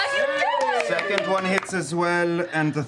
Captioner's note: cheering